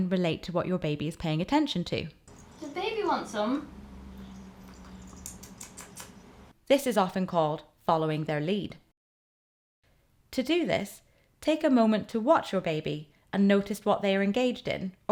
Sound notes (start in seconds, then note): 4.1 eating noises